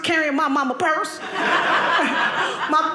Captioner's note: audience laughing